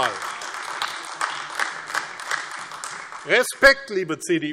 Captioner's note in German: Beifall AfD